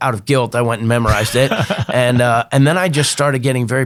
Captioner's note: laughs